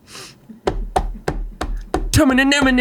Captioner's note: smacks table